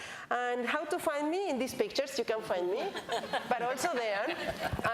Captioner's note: laughter